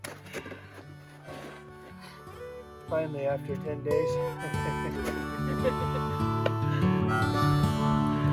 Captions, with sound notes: Finally after 10 days. [laughters]